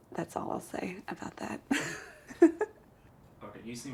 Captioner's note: chuckles